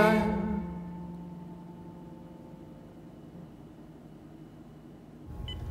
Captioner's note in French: silence